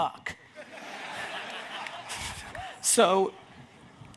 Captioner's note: audience laughs